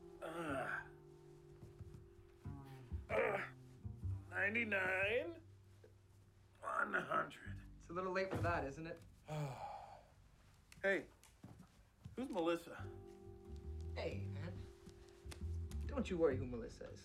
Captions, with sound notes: (groaning) 99... 1 00. - lt's a little late for that, isn't it? (Sonu sighing) - Hey, who's Melissa. - Hey, man. Don't you worry who Melissa is.